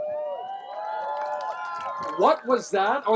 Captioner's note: cheering